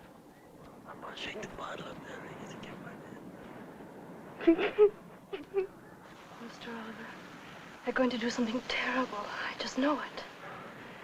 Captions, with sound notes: [ WHISPERING ] I'm gonna drink my bottle in front of him. [ LAUGH ] They're going to do something terrible, I just know it.